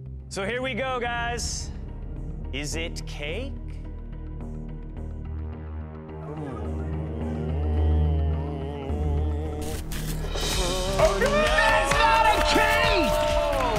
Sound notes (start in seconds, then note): 4.0 tense music playing; 6.1 hums